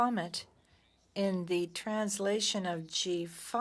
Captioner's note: speaking French